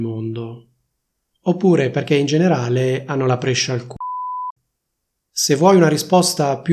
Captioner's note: beep